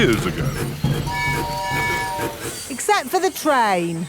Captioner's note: train tooting